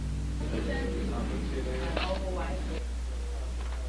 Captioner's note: hospital Ambience